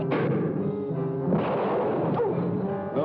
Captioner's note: gunshot